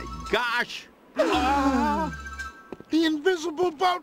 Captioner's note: all gasp